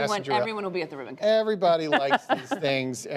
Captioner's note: laughter